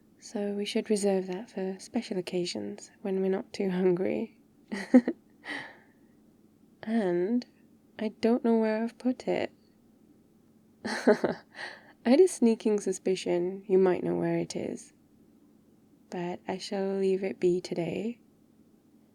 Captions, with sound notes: so, we should reserve that for special occasions, when we're not too hungry aaand... I've don't know where I've put it *laughs* I had a sneaking suspicion you might know where it is but I shall leave it be today